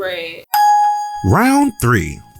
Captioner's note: ding